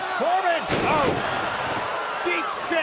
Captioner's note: crowd cheering